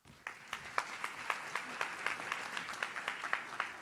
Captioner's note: audience claps